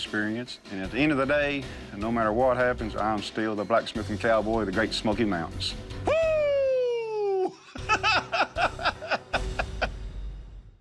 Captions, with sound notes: And at the end of the day, no matter what happens, I am still the Blacksmithing Cowboy of the Great Smoky Mountains. Whoo! [laughs]